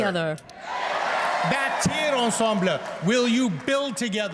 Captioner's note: speaking french